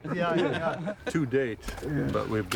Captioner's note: laughter